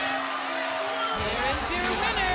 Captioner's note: bell ringing